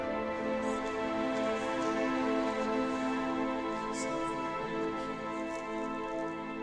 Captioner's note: enchanted music; participants chattering